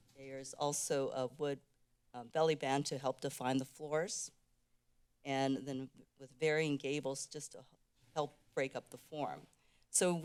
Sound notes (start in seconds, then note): none